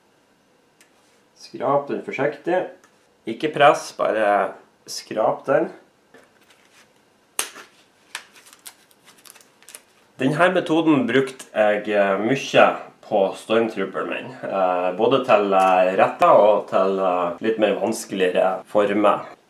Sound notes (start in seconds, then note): 7.4 snap